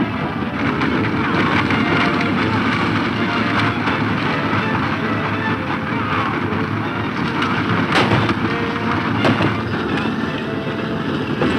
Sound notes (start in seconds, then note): 8.1 gunshots